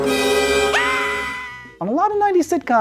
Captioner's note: scream